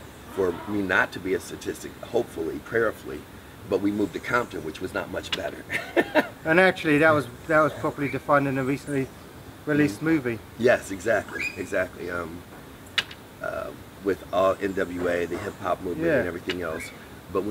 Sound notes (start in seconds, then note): 5.6 laughs